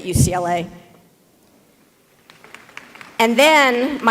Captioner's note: applause